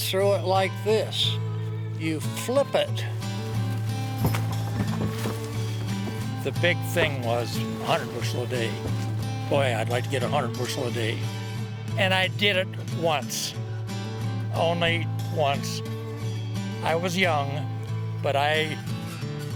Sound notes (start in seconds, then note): 5.4 bangboard thumping; 5.4 corn rustling; 16.4 guitar music